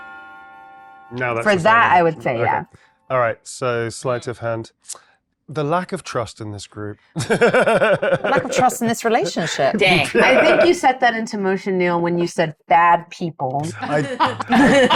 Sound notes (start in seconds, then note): 7.5 chuckles